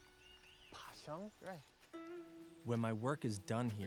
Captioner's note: speaks Mandarin